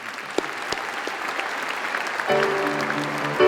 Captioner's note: applause; piano music